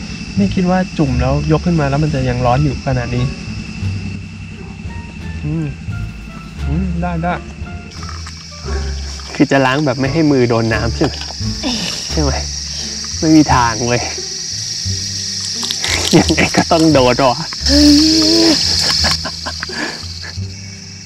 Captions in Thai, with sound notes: ไม่คิดว่าจุ่มแล้วยกขึ้นมา แล้วมันจะยังร้อนขนาดนี้ อืม.. ได้ได้.. คือจะล้างแบบไม่ให้มือโดนน้ำใช่ไหม *ขำ* ไม่มีทางเว้ย!! ยังไงก็ต้องโดนเปล่าวะ อูววววววววว 555 *เสียงหัวเราะแบบสะใจ*